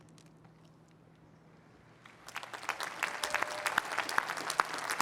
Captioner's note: cheering and applause